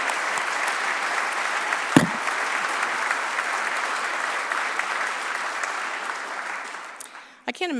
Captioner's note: applause